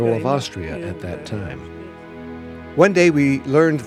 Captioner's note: non-english speech